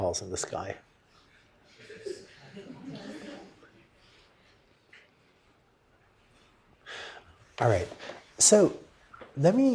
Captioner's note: laughter